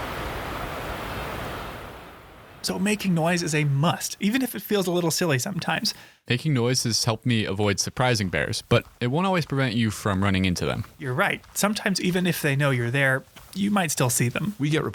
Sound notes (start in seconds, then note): 1.0 yelling